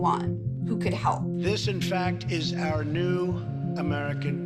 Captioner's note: soundbite of archived recording